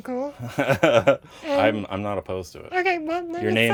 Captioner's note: laughs